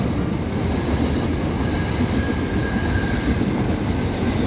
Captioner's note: wind whooshing